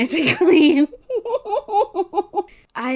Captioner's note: laughs